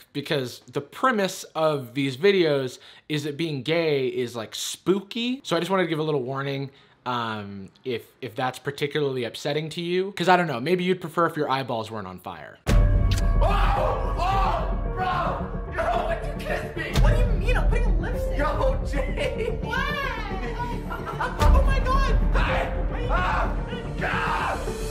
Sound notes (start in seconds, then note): 12.4 dark dramatic music; 13.0 smooch; 22.9 distressed screaming